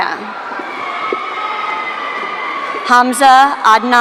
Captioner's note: audience cheering